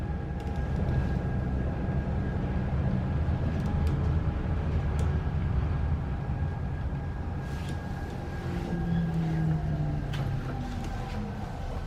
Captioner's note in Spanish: sonido del bus de celda de hidrógeno de Tokyo BRT